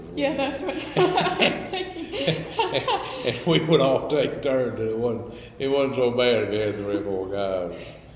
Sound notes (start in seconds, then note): 5.6 laughs